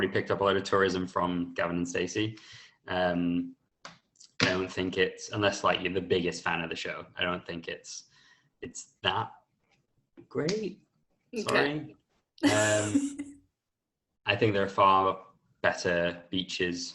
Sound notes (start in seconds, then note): 12.4 laughter